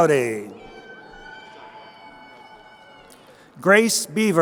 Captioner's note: crowd cheering